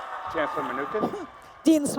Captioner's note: applause and cheers